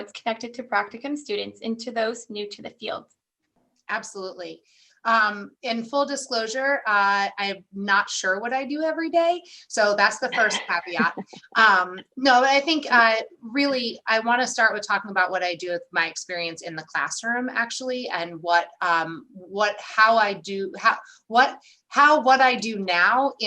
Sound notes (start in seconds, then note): 10.3 laughter